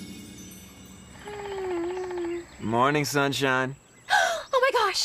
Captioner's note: gasps